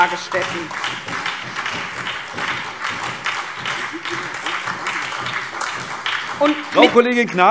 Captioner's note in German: Beifall SPD und vereinzelt DIE LINKE